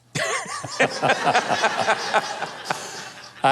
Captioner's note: laughing